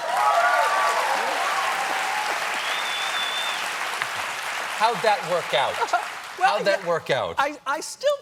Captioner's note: cheers and applause